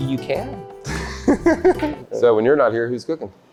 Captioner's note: laughs